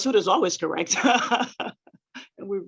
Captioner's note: laughing